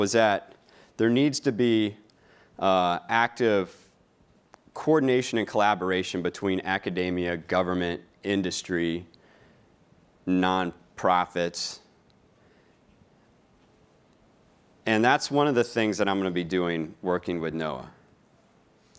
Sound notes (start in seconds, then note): none